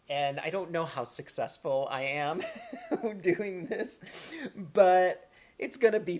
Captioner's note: laughter